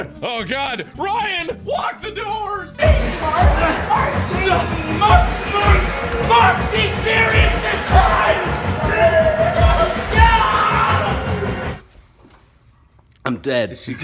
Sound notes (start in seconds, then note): 2.8 softcore porn noises; 8.4 hardcore porn noises